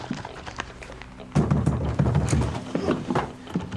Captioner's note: knocks